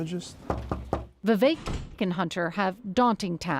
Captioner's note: knocking on door